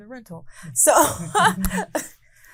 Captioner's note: laughing